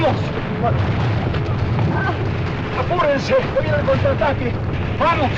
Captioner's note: moaning